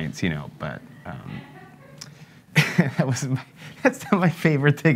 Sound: laughs nervously

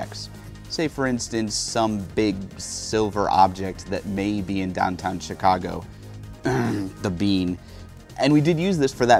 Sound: cough

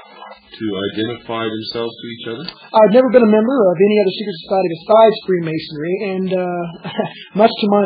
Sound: laughs

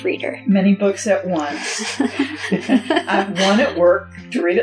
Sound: laughter

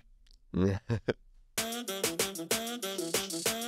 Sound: Sasha laughs; upbeat music

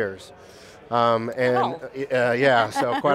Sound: laughs

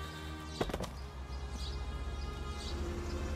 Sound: body thuds

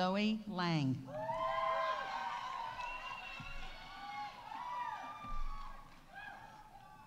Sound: audience cheering; audience applauding

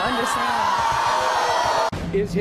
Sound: audience boos

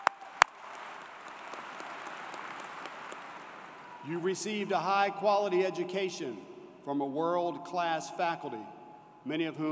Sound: cheers and Applause

